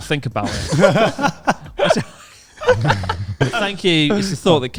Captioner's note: laughs quickly